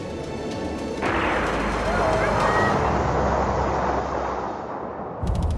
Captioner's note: explosion booming; tense pensive music; text pattering